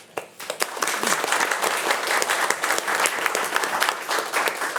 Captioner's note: attendees applauding